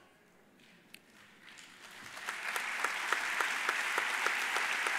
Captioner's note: audience applauds